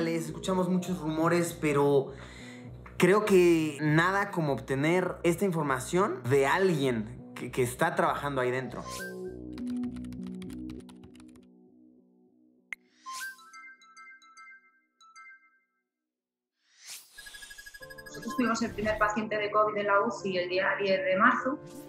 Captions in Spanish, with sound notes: escuchamos muchos rumores, pero creo que nada como obtener esta información de alguien que está trabajando ahí dentro. [tono de notificaciones] [tono de llamada] Nosotros tuvimos el primer paciente de COVID de la UCI el día 10 de marzo.